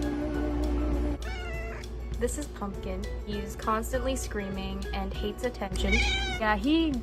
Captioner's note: meow